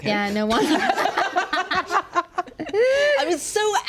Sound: laughing

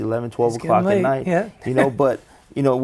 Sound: laughs

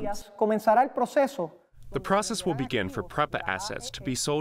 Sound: through translator

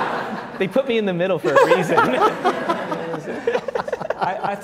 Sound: laughs

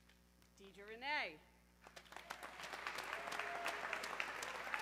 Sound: audience cheering

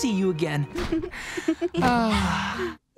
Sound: sighing

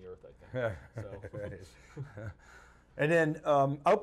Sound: chuckles

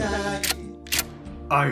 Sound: gun cocking

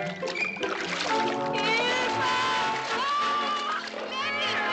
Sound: Gladys screaming

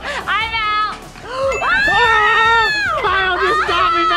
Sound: screaming

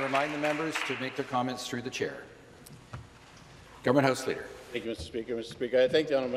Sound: applause

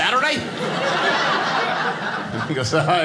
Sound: audience laughing

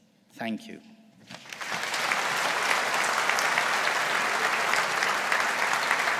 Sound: audience applauds

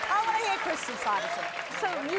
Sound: cheers

